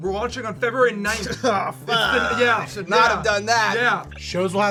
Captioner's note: coughs